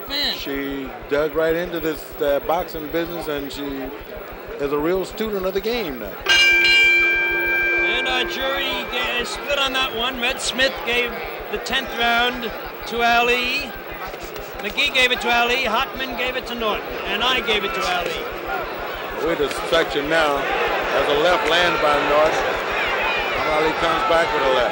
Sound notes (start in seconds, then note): 10.1 bell sounds